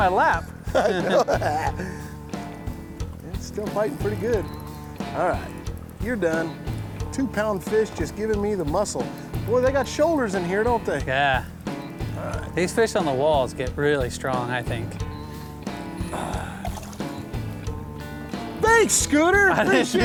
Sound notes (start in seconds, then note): 0.6 laughs; 15.8 splashing